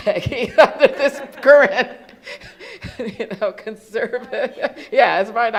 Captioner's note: laughs